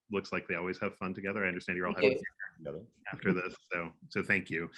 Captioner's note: speaking faintly